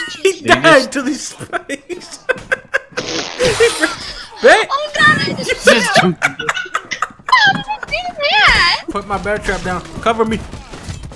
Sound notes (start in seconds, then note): 0.1 laughs; 1.6 laughing; 2.2 laughs; 5.3 they're laughing